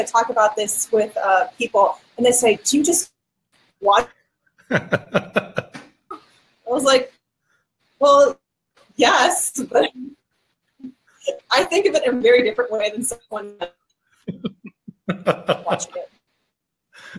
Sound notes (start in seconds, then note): 10.0 laughing; 14.3 laughing